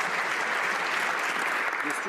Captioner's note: some Applause